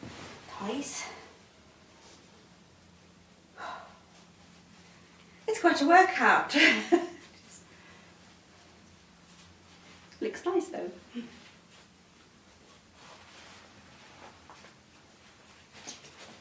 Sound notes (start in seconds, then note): 3.5 exhales deeply; 7.0 creator laughs